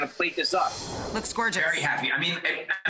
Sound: air whooshes

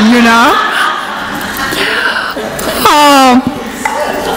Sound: audience laughs

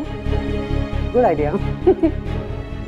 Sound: giggling

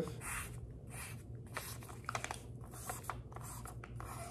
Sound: pen squeaking

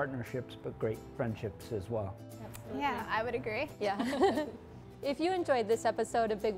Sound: laughs

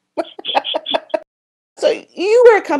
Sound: laughter

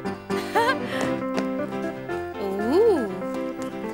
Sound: giggles

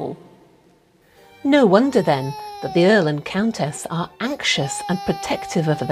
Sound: wailing baby

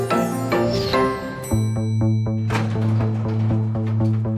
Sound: lift door bings

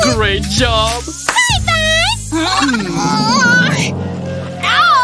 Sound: screaming

